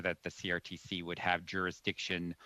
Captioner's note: speaking French